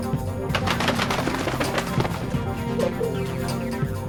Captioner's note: wings flapping, pigeon coos